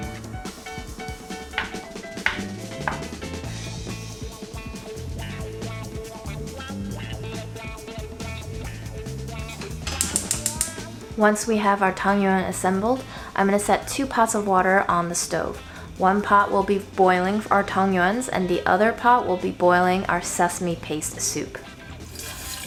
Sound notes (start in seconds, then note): 2.2 board tapping; 3.9 upbeat music; 9.4 burner clicking; 22.4 water rushing